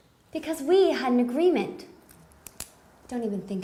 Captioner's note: none